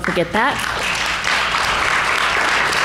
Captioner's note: applause